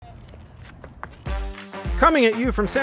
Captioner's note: foot clinking; upbeat music